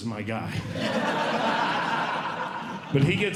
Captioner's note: audience Laughing